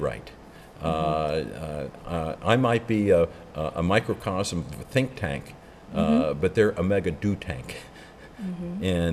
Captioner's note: laughs